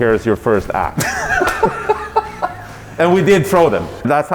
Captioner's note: laughs